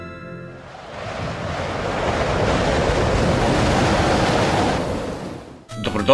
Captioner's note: snow blizzard